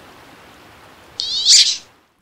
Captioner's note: quack